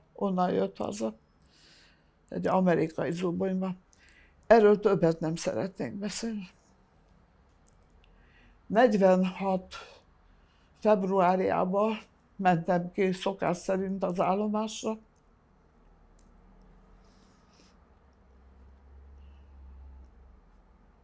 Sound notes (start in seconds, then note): 15.1 pauses 11 seconds